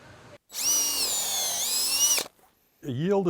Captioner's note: drill drilling